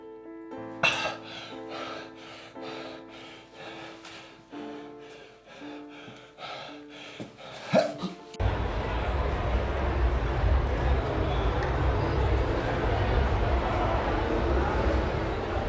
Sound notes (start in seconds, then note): 0.8 heavy breathing